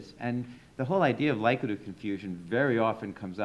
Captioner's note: none